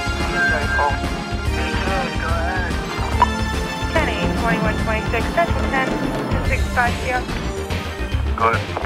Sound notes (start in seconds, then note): 0.0 upbeat music; 3.7 radio chatter